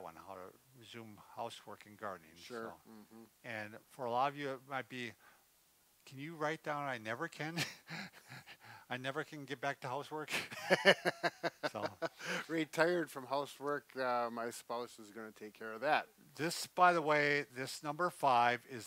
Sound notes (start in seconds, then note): 7.6 laughs; 10.3 both laughs